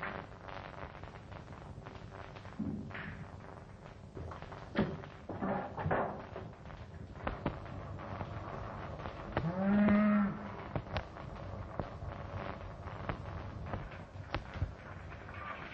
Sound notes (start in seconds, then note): 9.5 cows mooing